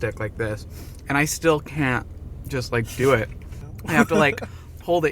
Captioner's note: laughing